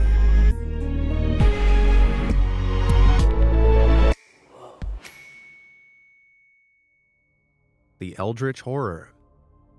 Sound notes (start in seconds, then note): 0.0 light suspenseful music; 5.0 bell dings